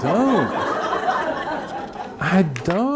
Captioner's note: audience laughing